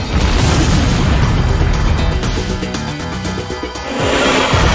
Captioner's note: explosion booming